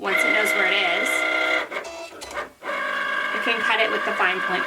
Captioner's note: machine whirls